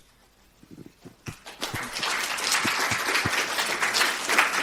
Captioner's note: applause